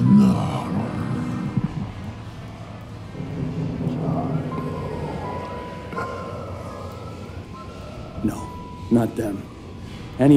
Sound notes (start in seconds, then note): 4.8 ghostly whispering